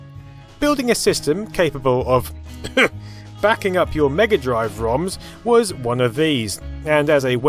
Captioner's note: ahem